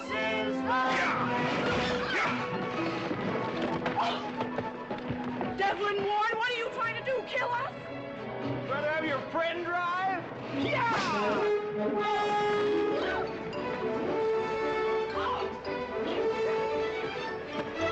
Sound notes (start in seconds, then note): 2.7 dev yelling; 4.6 gasps